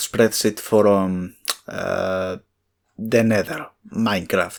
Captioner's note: tsk